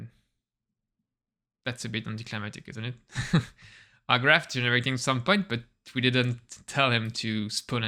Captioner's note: chuckles